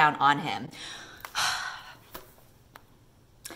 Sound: sigh

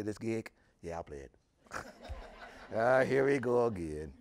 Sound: audience laughing

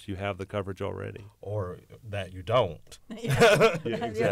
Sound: laughter

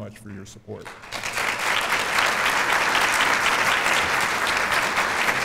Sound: applause

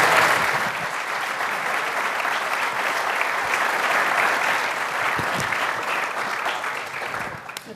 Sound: applause

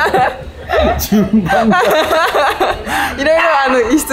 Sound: laughs

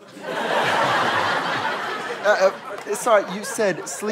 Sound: audience laughter

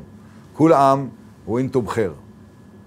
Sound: in Arabic

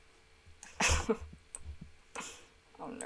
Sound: laughter

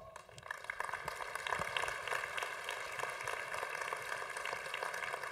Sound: congregation applauding

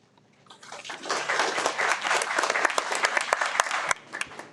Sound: everyone applauds

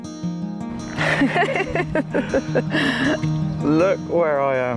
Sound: laughing

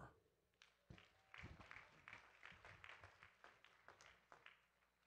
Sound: audience claps

